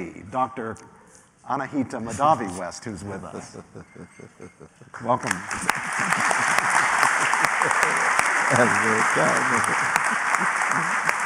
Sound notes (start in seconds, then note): 3.6 laughter; 5.2 applause